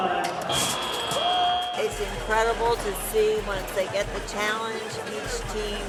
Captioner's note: whistle